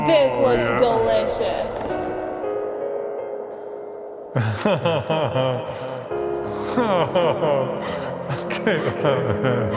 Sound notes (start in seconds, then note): 4.3 laughing